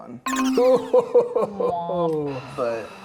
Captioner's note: disappointed beeping sound; laughing